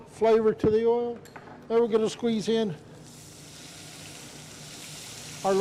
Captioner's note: skillet sizzling continues